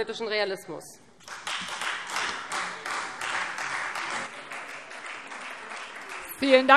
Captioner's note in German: Beifall Freie Demokraten